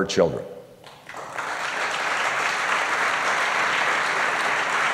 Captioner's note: applause